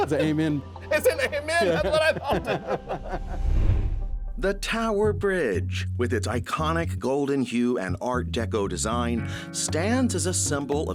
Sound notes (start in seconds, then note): 0.0 laughing; 3.6 laughing